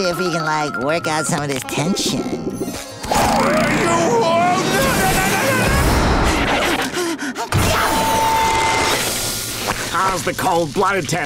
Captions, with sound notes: like work out some of this tension. Why you! [screaming] How's the cold-blooded test going?